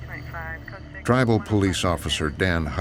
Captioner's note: woman talking on police radio